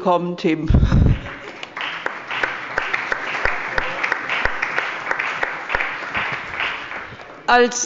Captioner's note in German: Beifall